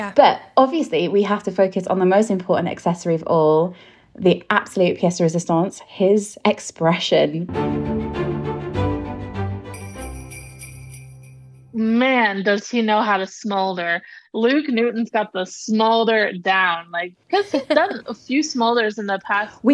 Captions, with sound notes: But obviously we have to focus on the most important accessory of all, the absolute piece de resistance, his expression. (theme music) (bell ringing) - Man, does he know how to smolder. Luke Newton's got the smolder down. Because he's done a few smolders in the past.